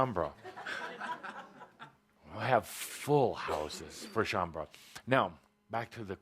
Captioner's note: some laughter